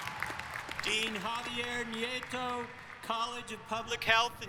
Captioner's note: applause